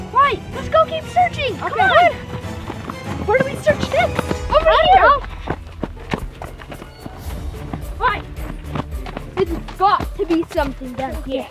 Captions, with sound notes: - Wade, let's go keep searching. C'mon (footsteps) - Where do we search next? - Over here. - I don't know. (footsteps) - Alright, there's got to be something down here.